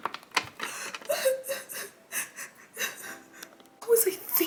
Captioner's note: sobbing